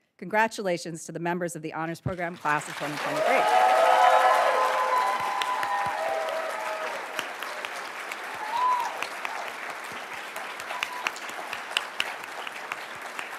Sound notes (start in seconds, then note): 3.4 applauds; 3.9 attendees cheering and applauding